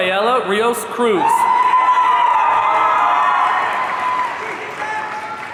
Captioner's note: audience cheering